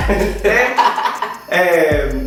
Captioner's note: haha